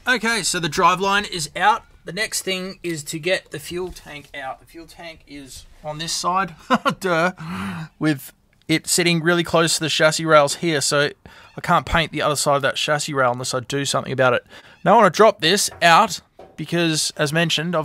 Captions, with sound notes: Okay so the drive line is out. The next thing is to get the fuel tank out. The fuel tank is on this side (chuckles) dur! with it sitting really close to the chassis rails here. So I can't paint the other side of that chassis rail unless I do something about it. Now I wanna drop this out because as mentioned